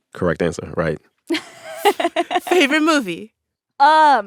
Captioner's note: laughter